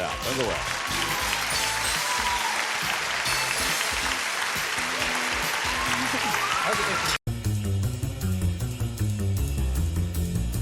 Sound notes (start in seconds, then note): 0.0 applause, theme music